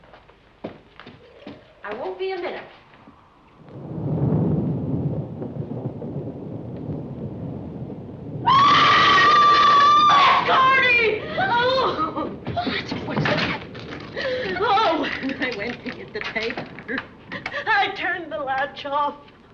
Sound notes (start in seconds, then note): 3.4 thunder; 8.4 screaming